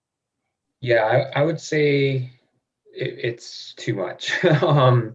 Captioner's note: laughs